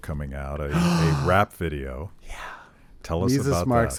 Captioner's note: gasps